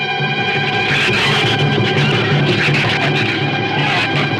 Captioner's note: shrews screech